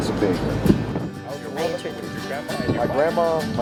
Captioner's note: indistinct chatter